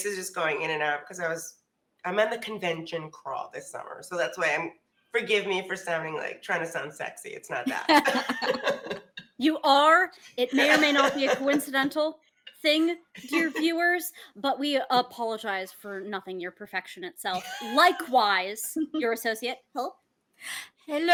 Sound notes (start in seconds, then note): 7.9 everybody laughs